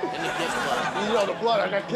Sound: crowd laughs

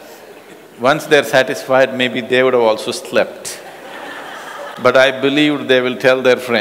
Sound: laughter

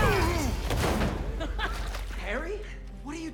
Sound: laugh

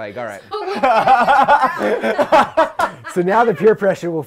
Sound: laughing

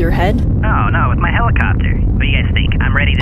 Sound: over comm

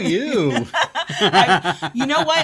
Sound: laughs

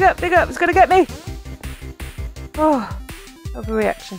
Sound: laughing

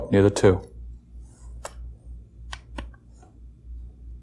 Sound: snaps

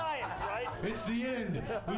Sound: laughter

